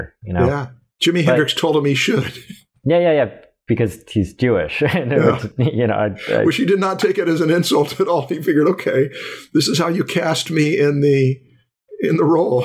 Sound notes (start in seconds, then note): 4.8 chuckles